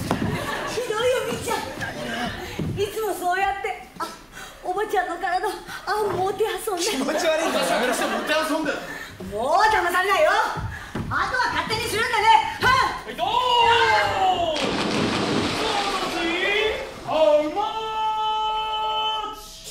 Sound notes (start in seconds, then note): 14.5 sound of somebody falling into the water